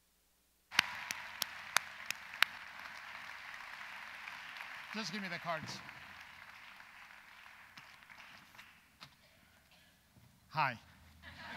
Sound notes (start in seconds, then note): 0.7 audience applauds